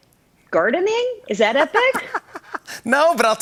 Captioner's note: laughs